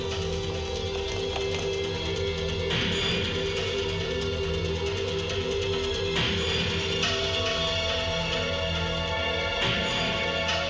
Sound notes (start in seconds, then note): none